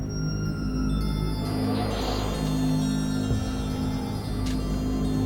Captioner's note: wind blowing